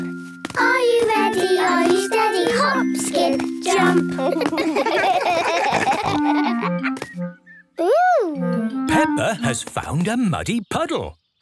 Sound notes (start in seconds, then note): 4.1 laughing